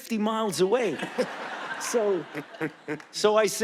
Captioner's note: audience laughing